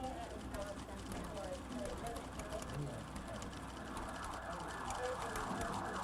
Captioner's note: keyboard keys clacking; police sirens blaring